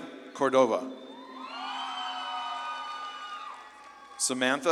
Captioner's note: audience claps and cheers